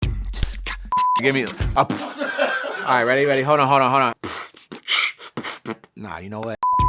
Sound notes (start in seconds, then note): 1.3 laughter; 4.1 beatboxing